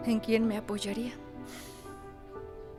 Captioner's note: Mario resopla